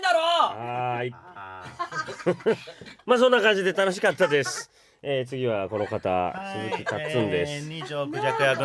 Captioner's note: laughs